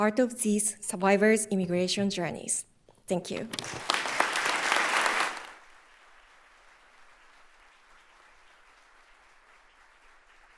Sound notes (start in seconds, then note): 3.5 audience applauding